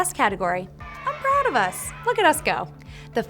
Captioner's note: audience cheering